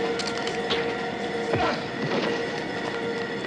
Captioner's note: Mac grunts